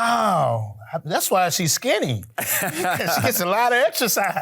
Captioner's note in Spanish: se ríe el Sr. Manos Desnudas